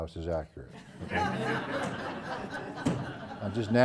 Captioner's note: laugh